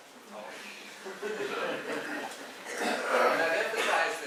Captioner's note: laughter